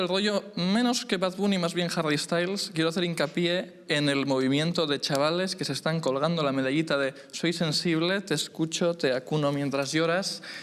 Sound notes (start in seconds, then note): none